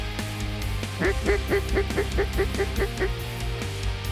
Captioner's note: duck calls